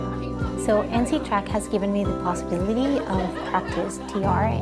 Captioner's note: laughter